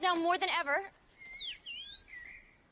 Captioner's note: chirping